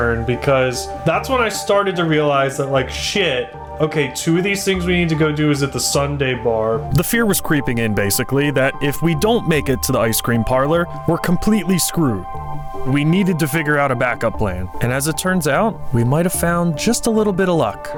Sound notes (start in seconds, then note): none